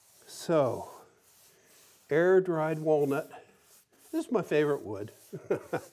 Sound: chuckles

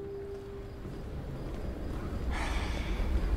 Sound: crickets chirping

